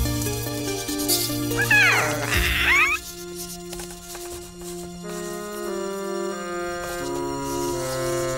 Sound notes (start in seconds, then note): 1.5 squeaking; 5.5 slow music